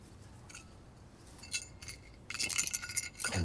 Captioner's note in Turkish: Metal Kutu Sesi